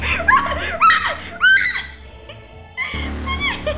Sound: screams

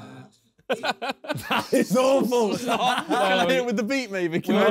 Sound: laughing

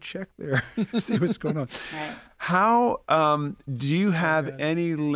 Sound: chuckle

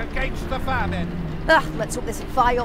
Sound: disgust

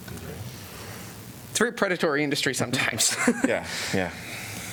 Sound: laughter

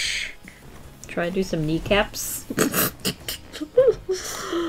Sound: laughs

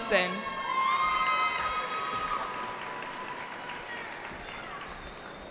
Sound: cheering

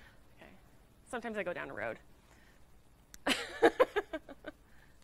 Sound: laughing

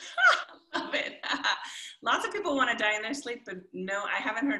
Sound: chuckles gleefully; chuckles

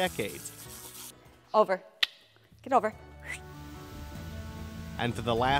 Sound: whistles

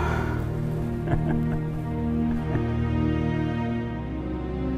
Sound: captain laughing; slow music

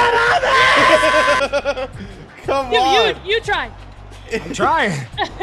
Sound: laugh

